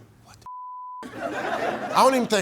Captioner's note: audience laughing